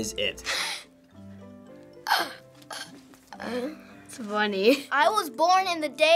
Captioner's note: laughs